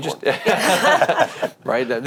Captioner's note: all laughing